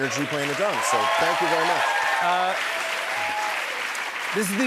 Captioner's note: cheers and applause